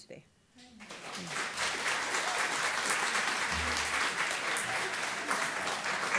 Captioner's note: audience applause